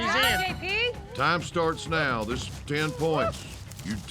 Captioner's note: horn blows